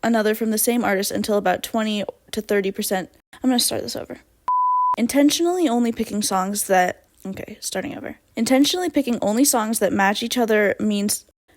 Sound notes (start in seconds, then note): 7.2 quietly